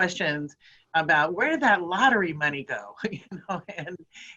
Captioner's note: laughing